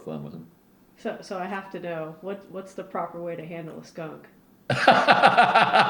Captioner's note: laughter